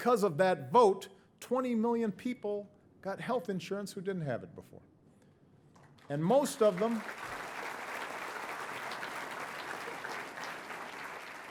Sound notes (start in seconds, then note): 5.9 audience applauding